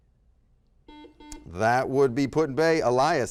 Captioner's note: beeping